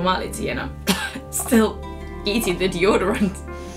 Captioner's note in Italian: cough